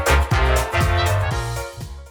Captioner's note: clap